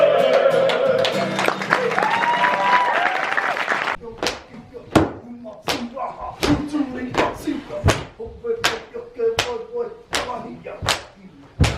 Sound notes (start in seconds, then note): 2.6 audience applauds; 5.0 chanting continues; 5.0 hands smacking rhythmically